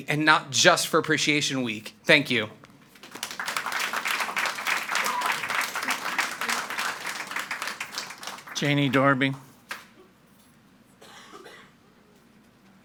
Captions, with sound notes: and not just for Appreciation Week. Thank you. (audience applauding) - Janie Darby.